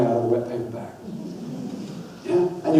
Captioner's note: audience laughs